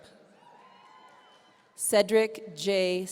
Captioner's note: audience cheering